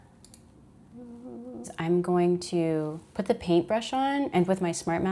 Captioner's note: hums